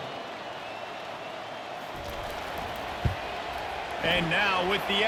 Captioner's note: cheering